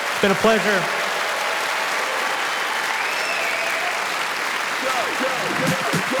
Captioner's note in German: Publikum applaudiert